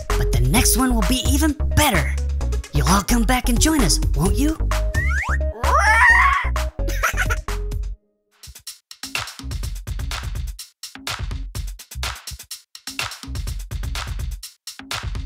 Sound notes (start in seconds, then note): 5.5 dinosaur roars; 6.8 Gigglebot laughs